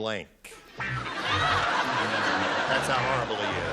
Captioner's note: laughter